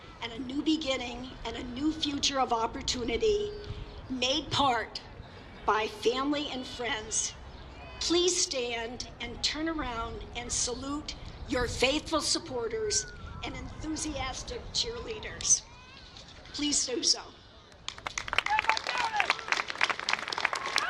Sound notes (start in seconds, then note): 17.8 applause